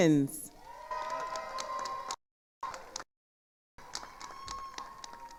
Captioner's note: attendees applauding